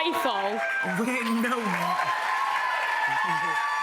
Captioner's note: cheers and applause